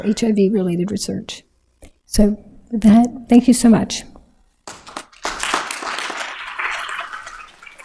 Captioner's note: applause